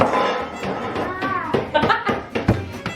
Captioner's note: banging